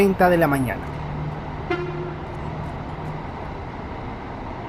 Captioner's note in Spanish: sonido ambiente con el movimiento de los buses